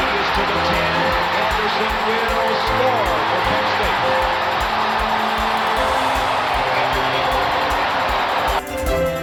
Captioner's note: cheers